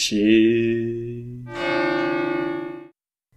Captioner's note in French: Son de cloche